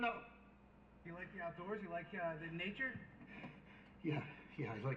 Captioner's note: voiceover